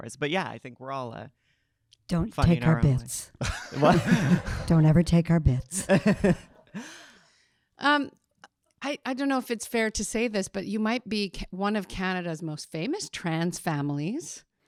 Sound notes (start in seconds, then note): 3.5 audience laughing; 5.7 laughing